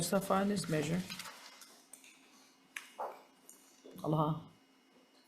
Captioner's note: paper rustling